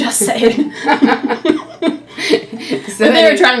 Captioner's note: laughing